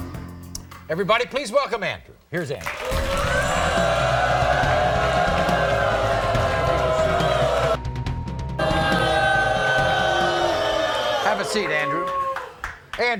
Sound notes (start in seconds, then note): 2.9 audience oohs